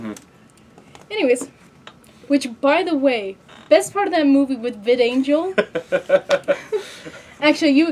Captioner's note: laughing